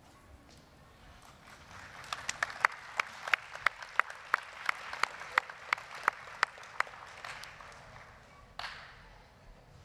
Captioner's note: applause